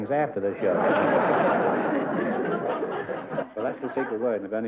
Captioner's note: laughter